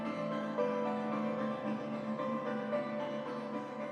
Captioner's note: none